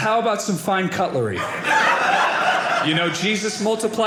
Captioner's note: audience laughing